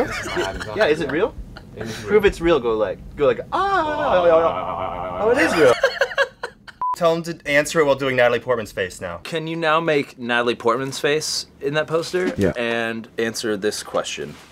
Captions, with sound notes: - Is my Adam's apple real? - Yeah, is it real? - It's real. - Prove it's real. Go like, ahhhh. - (voice jiggling) - Oh, it is real. - (laughs) - Tell him to answer it while doing Natalie Portman's face now. - Can you now make Natalie Portman's face in that poster? - Yeah. - And answer this question.